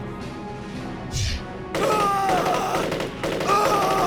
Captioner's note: air whooshes; gun fires; Clarke screams